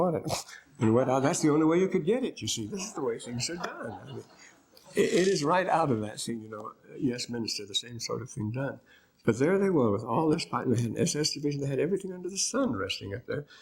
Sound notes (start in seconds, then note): 2.8 laughter